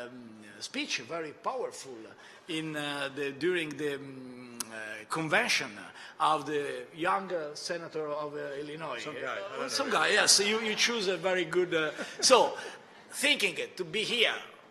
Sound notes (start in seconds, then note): 9.9 laughter